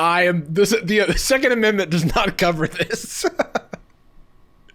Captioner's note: laughing